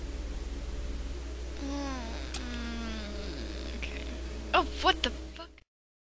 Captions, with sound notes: *Whining* Okay... Fu-- Oh! What the fuck--